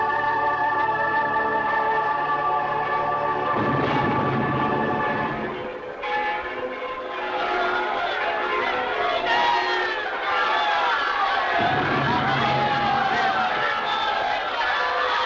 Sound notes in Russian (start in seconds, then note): 3.2 выстрел пушки; 6.7 колокольный звон; 8.6 крики радости